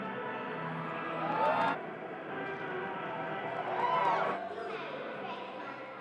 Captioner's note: crowd cheers